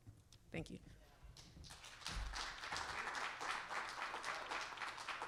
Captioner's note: audience applauding